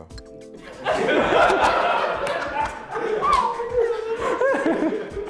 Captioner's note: laughter